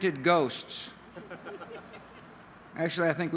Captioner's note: laughter